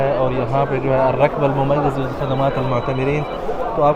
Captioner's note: Arabic